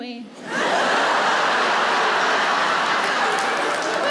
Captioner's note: audience laughs